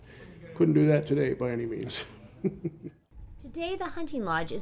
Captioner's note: laughs